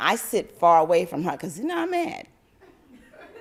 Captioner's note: laugther